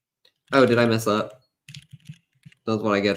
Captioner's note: none